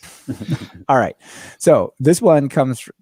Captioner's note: laughter